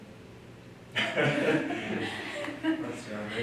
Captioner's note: laughter